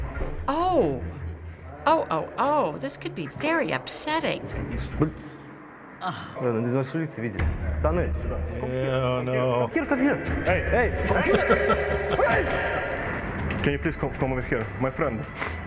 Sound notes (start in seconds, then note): 6.2 foreign speech; 10.9 chuckling